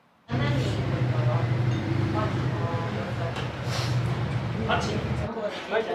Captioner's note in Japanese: 無数のバイクの音